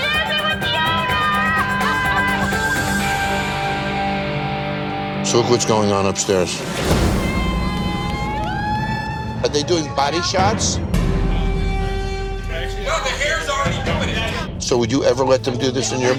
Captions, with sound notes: Cheers, we're with the owner! [LAUGHTER] So look what's going on upstairs. Hey! Woo! Are they doing body shots? No, the hair's already doing it. So would you ever let them do this in your bar?